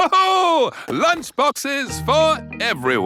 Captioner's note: laughs